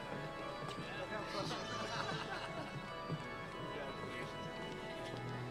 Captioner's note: graduates chatter